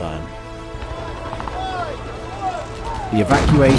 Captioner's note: battle sounds